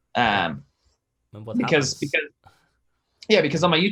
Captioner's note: speaks away from mic